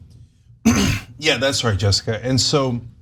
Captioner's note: cough